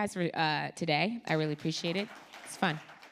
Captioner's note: audience claps